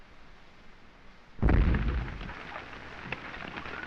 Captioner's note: explosions